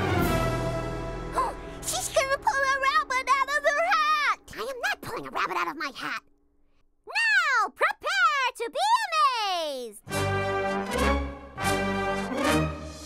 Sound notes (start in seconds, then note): 1.3 gasps; 10.0 dramatic music